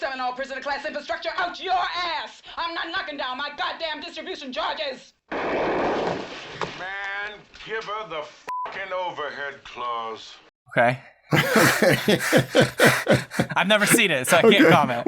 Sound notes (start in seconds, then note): 5.3 gun fires; 11.3 laughter